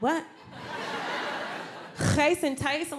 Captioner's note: audience laughs